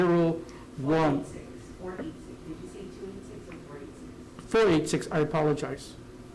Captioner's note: indistinct background chatter